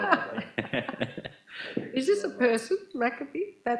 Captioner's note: laughing